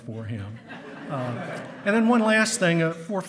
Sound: hearty laughing

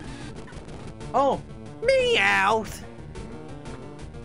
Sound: Meowth impression

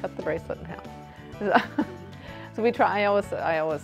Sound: laughs

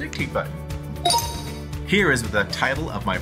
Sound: computer chimes

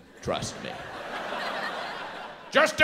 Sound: audience laughs

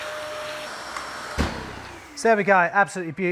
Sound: wet vac booms

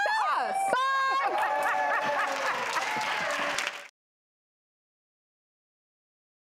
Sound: audience laughing and clapping

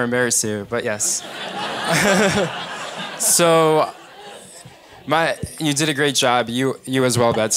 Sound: laugh

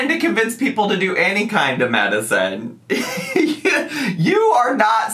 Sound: laughing

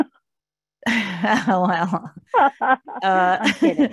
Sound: chuckles

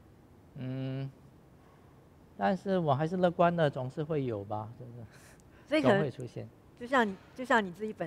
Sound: laughs

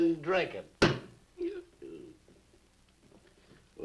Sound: Harris hiccups

